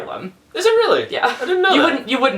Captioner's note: laughs